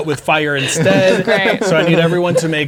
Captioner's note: laughing